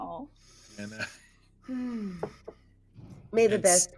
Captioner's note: Fairuza sighs